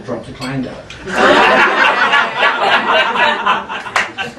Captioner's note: laughing